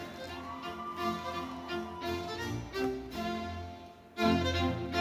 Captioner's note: audience cheering